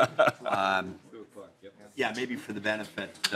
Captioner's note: laughter